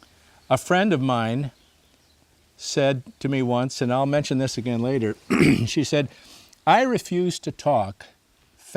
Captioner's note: clears throat